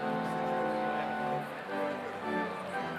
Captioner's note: none